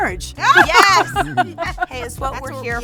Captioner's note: group laughing